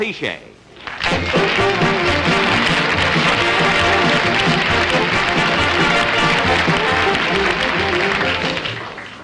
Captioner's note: audience Applauding